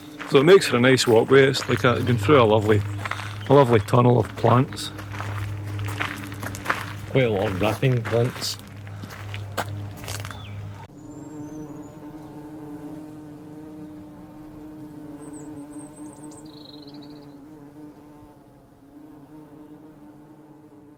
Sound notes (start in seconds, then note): 9.8 sound of Bees